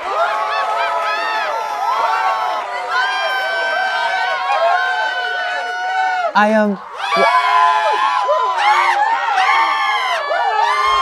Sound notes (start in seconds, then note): 6.8 audience cheers